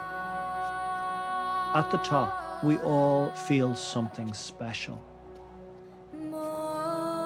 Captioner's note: voice-over